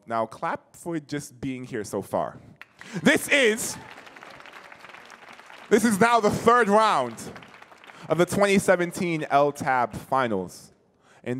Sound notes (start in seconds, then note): 2.6 audience clapping